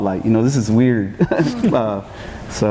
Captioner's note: chuckles